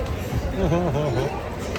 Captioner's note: laughter